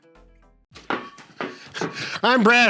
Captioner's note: ball bouncing